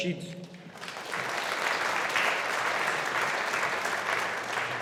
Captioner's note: audience applauding